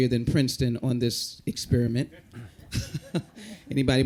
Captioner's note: chuckles